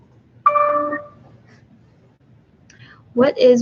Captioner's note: computer dings